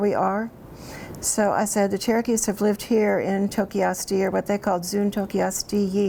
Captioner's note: speaks Cherokee